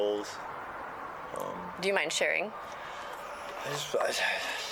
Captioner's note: helicopter flies overhead